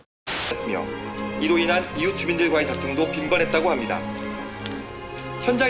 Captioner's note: speaking in foreign language